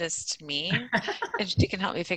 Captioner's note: laughing